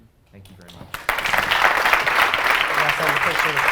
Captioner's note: applause